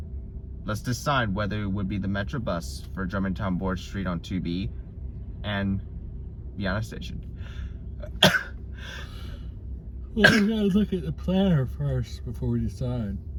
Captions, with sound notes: Let's decide whether it would be the MetroBus for Jermantown - Borge St on 2B, and "Vienna" Station. -[sneezing] -[yawns deeply] We gotta look at the planner before we decide.